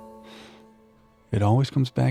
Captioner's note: sniff